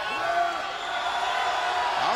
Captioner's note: crowd shouting; Booker shouting